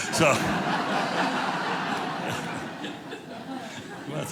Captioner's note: audience laughing